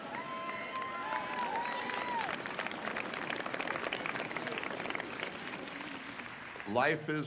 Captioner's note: cheers